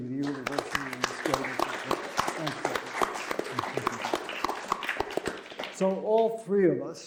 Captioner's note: applause